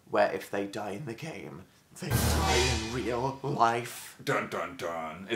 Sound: dramatic sound effect; dun dun dunnnn

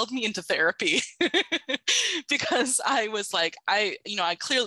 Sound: laughs

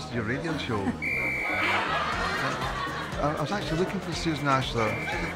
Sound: whistle blows

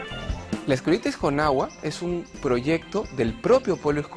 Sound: speaking spanish

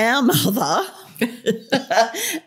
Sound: laughter

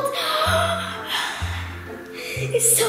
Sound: gasps

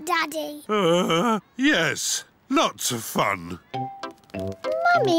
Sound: groans

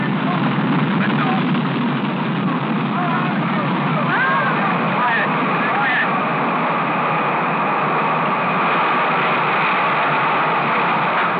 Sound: rocket Launching

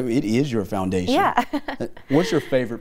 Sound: chuckles

